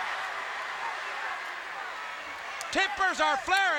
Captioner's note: crowd chatter